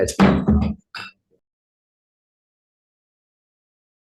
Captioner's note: gavel bangs